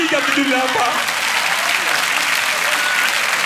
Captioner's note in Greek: θερμό χειροκρότημα